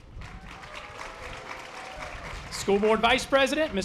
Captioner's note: audience applause